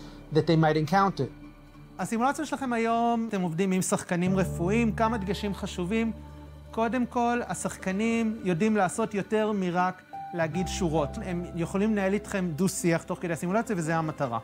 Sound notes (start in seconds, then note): 2.4 speaks foreign language